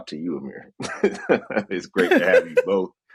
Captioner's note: laughing